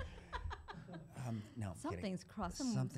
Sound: laughter

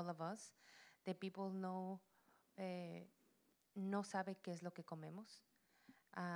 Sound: Spanish language

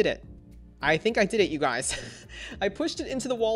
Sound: chuckles

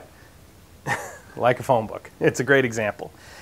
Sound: laughs

